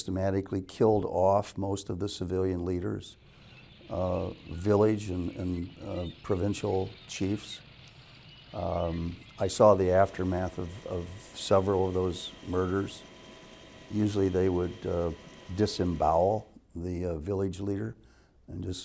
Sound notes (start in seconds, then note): 3.3 moving tank echoes